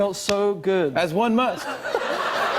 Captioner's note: laughter